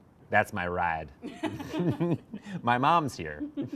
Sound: laughing

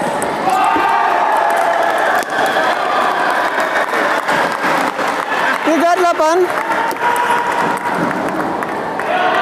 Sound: applause

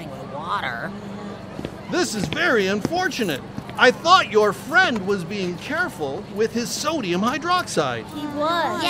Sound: footsteps

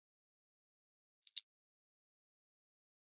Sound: sound of click

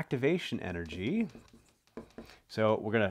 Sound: marker tapping board

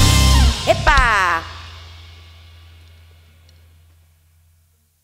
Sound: speaking in Spanish

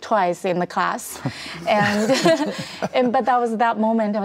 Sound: laughs

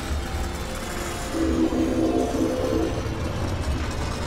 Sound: train whistle

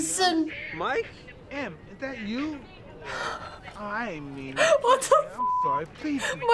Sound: laughs; chuckles

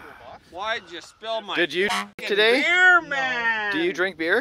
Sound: honk

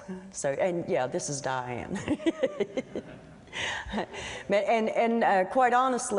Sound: laughter

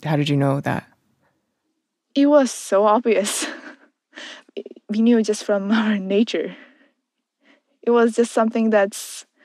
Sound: laughs

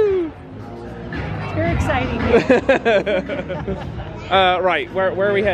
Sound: laughing

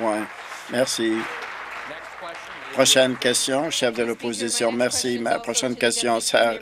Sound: applause

